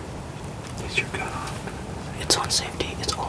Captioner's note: whispering